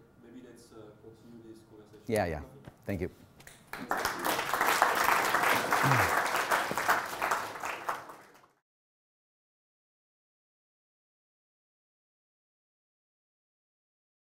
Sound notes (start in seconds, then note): 3.6 applause